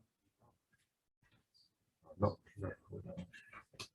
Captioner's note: indistinct conversation